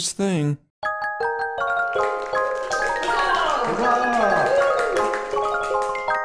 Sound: bright music; audience applause

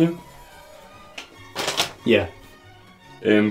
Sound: paper crinkles

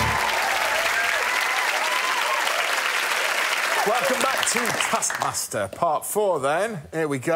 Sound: applause

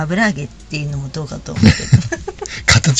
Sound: laughs

